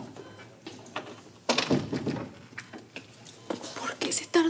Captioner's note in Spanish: bip de monitor